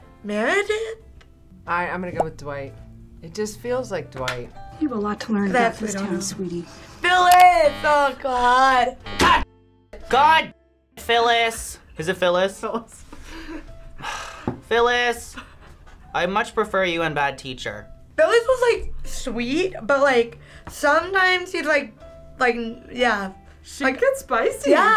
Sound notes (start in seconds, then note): 9.0 buzzer; 13.9 sighs